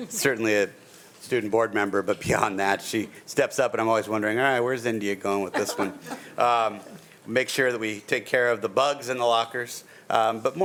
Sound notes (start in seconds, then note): 5.5 laughing